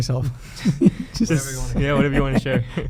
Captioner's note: laughing